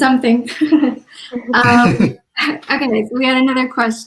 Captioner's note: laughs